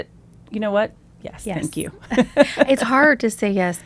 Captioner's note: laughs